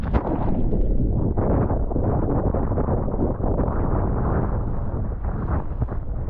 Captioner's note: underwater wave crashing